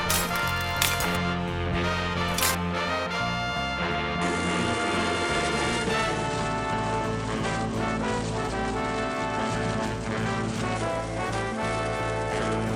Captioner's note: crunching Noises; blender Noises